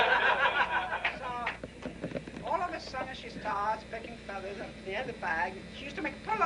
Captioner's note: laughter